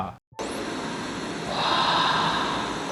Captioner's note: static plays